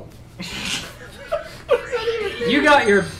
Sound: laughing

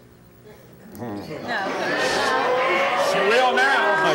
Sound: audience murmuring

